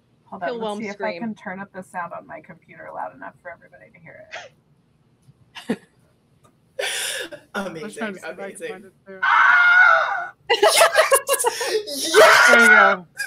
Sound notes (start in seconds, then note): 5.6 laughter; 9.2 sound effect of a loud scream; 11.5 scream repeats